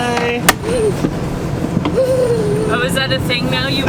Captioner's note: laughs